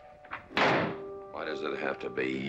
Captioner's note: door slams